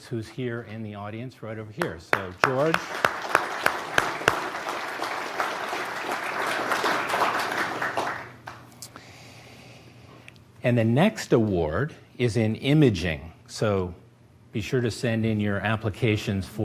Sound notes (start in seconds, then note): 2.0 applause